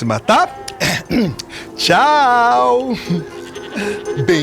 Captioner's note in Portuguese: Chico pigarreia